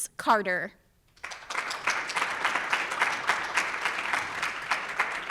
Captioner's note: audience applauds